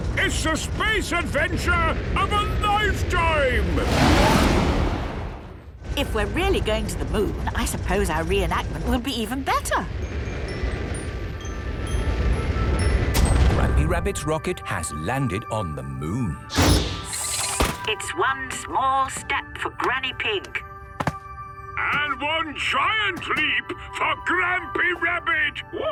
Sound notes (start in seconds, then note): 10.2 rocket thrusting